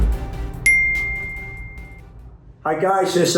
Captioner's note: bell dings